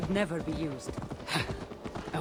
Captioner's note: laugh